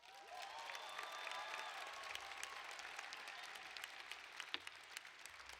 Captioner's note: applause